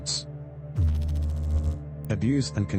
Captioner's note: electrical noise